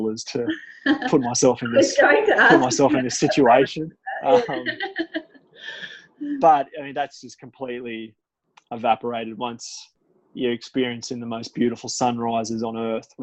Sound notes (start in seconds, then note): 4.2 laughs